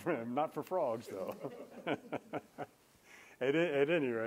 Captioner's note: laughter